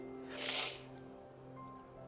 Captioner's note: sniffles